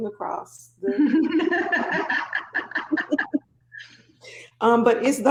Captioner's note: both laughing